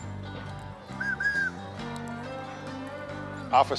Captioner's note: blows whistle